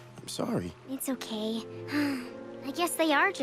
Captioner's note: sighs